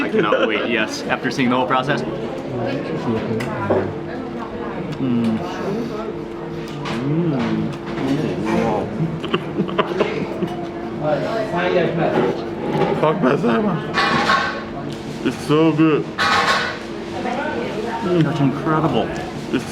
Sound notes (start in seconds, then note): 4.7 chewing and moaning; 8.1 laughing; 12.8 speaks in foreign language